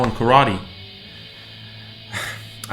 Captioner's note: sighs